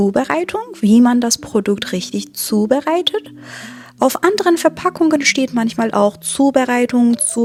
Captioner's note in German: japst